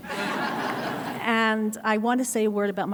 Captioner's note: audience laughs; laughs